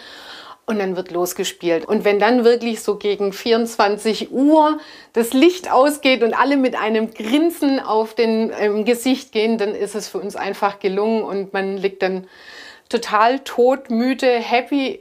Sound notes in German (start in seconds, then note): none